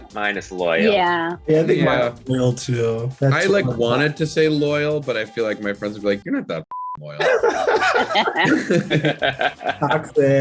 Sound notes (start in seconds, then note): 6.7 beep; 7.1 Brandon and Aidy laugh